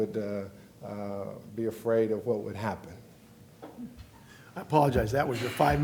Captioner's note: beeping sound